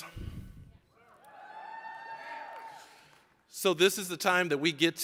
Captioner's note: audience cheering